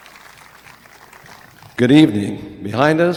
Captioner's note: audience applauding